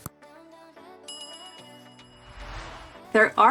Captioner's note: bell rings